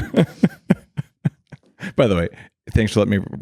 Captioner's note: laughing